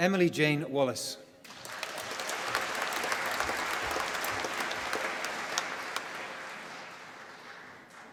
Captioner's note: applause